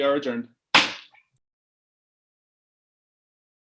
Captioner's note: gavel pounds